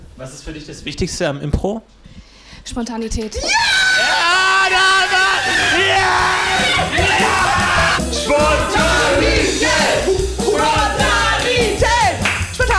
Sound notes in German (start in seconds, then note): 3.4 Jubelrufe von allen